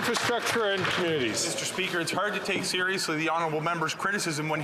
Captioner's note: some Applause